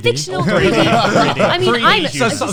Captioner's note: laughs